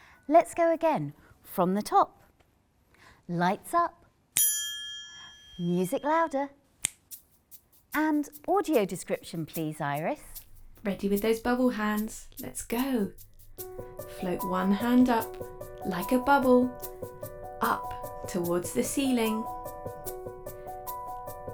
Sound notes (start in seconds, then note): 4.4 ping